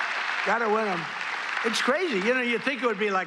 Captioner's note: applause